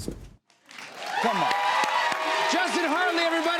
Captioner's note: cheers and applause